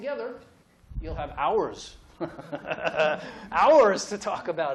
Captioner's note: laughs